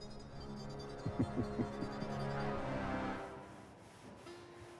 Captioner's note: Elijah chuckling